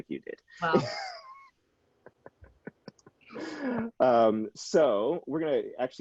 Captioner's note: laughing